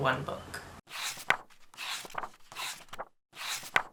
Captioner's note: pages turning